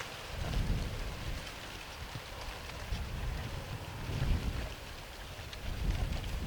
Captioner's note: wind blowing